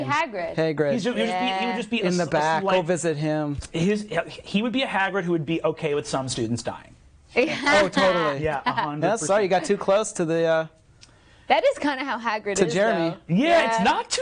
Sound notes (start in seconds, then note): 7.4 laughing